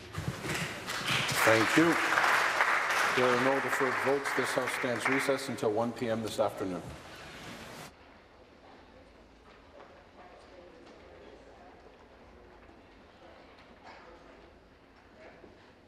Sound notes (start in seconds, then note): 4.0 applause